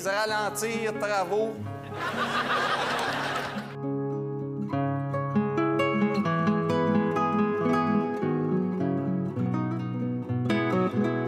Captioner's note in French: rires